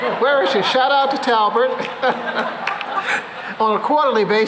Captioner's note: cheering; laughter